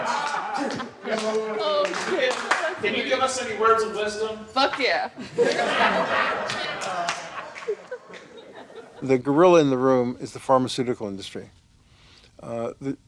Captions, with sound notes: [LAUGHTER] Can you give us any words of wisdom? Fuck yeah! [LAUGHTER] The gorilla in the room is the pharmaceutical industry.